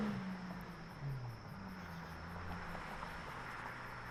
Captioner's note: crickets chirping